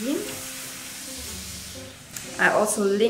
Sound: iron hisses

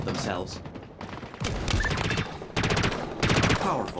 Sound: gunfire

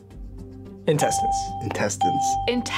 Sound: ding

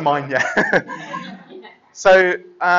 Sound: laughter

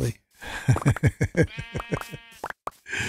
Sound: laughs

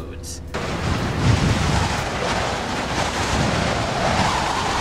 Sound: wind whipping

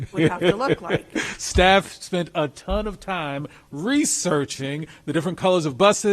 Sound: laughs

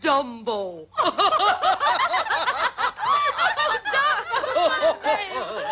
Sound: laughing

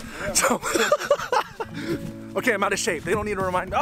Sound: laughs

